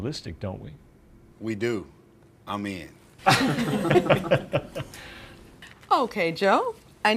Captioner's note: everyone laughs